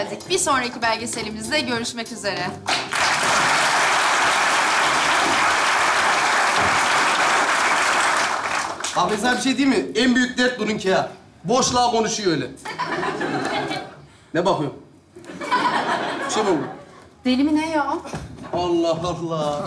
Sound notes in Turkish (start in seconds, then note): 2.6 Alkış sesleri